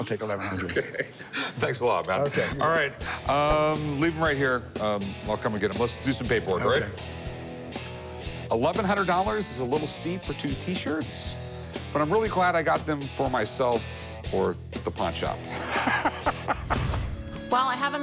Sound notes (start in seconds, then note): 0.4 laughs; 15.4 laughs